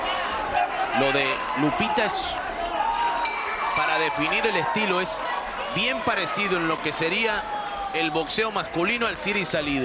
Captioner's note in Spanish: ovación